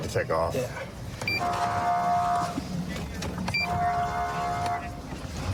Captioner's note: horn blaring